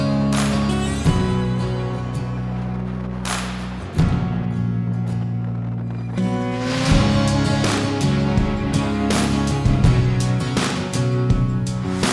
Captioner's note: applaue